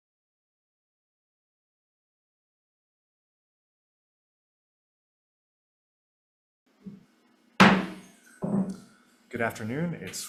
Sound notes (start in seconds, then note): 7.6 gavel taps